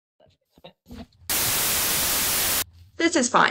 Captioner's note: static